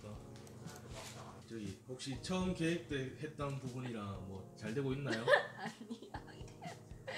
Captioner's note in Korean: 웃음